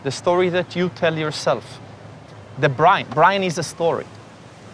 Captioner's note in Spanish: none